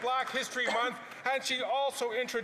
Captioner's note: some Applause